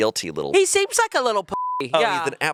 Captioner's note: beep